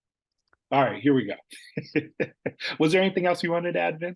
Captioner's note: laughs